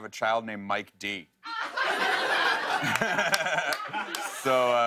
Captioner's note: laughter